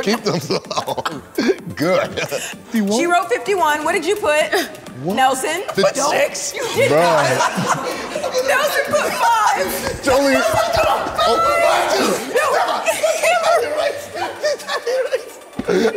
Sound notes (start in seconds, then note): 6.8 everyone laughs; 9.7 everyone laughs